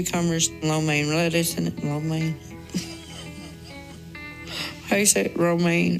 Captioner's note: laughs